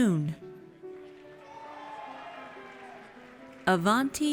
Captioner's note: audience cheers